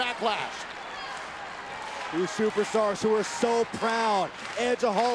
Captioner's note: applause